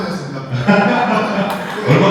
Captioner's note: chuckles